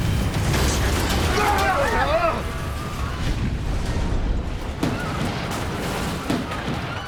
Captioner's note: plane crashing; passengers yelling